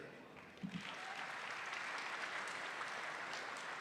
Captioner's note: applause